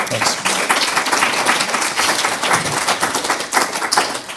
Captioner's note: audience applauding